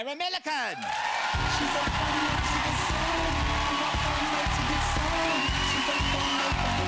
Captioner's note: audience cheering; audience applauding